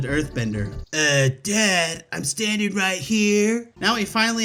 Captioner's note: In Haru's voice